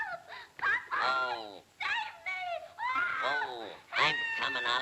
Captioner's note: screams